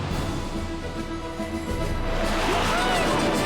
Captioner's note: jets whoosh through the sky